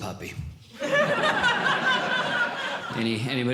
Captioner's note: audience Laughing